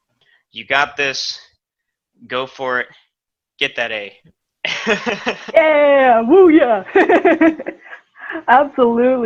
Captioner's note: laughter